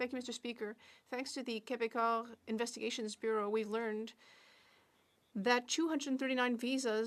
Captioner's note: speaking French